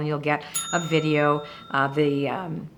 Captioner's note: bell dinging